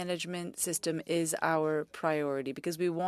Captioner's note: speaking French